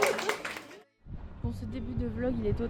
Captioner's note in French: applaudissements